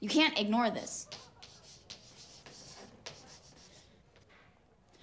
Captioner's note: chalk clicking